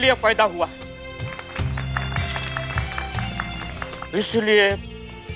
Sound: clapping

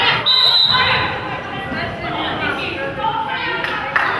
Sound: whistle blows

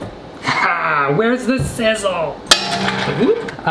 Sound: man laughs; loud bang

